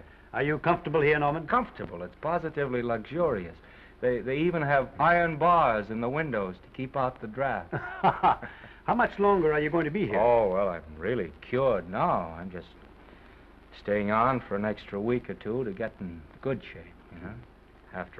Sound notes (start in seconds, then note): 7.6 Oliver laughs